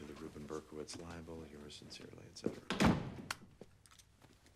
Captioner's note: none